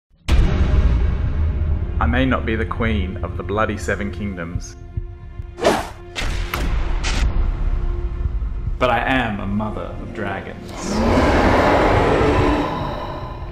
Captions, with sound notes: (dramatic bass music) - I may not be the queen of the bloody seven kingdoms, (swoosh, thump, thump, banging on table) But I am a mother of dragons. (screeching roars)